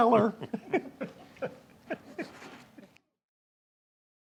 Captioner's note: both laughing